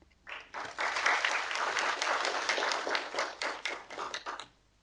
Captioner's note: audience applauding